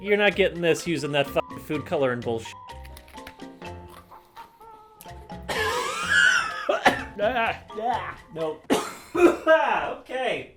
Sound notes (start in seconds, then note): 2.7 crunch; 5.1 coughs; 8.6 coughs